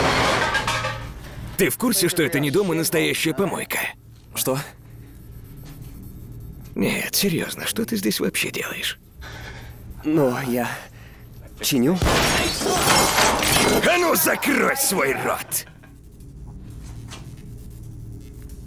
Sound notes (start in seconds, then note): 10.5 laughs; 12.0 gunshot